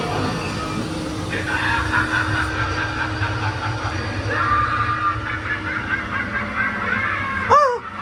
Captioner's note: increasingly deranged laughter